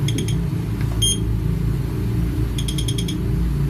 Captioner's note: metre beeping